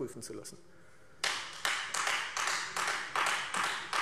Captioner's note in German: Beifall Freie Demokraten